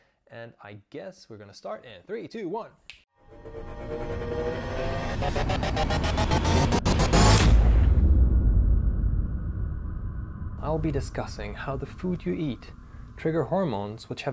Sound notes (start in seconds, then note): 2.9 snaps fingers; 3.8 sound effects